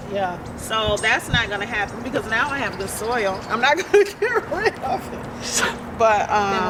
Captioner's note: laugh